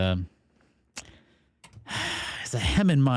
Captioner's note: sighs